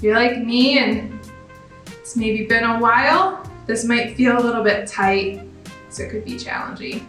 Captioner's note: none